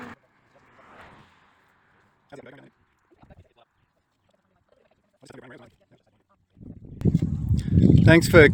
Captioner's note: fast forwarding 30 seconds of awkward silence